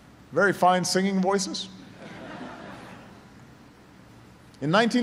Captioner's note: laughter